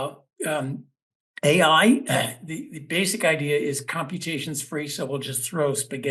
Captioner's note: cough